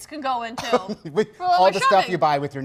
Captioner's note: laughs